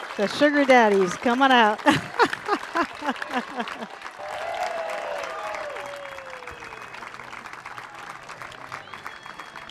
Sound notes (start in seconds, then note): 4.2 cheers